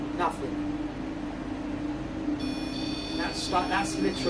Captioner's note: buzzing sound is heard from the REM pod